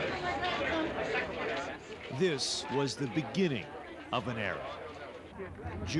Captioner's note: indistinct chatter